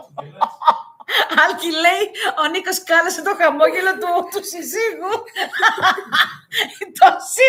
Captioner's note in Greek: γέλια